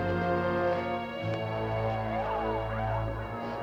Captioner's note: hooting and hollering continues